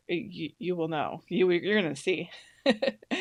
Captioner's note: laughs